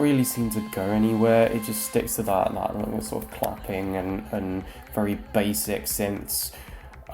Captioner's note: claps